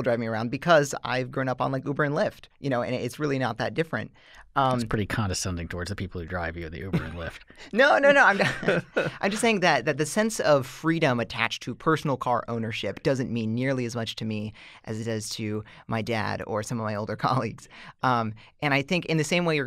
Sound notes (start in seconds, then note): 8.4 chuckle